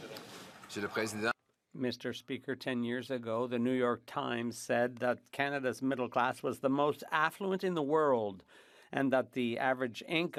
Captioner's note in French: applaudissements